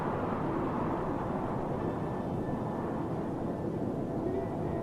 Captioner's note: wind whooshing